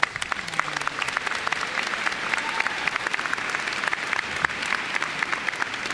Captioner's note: applause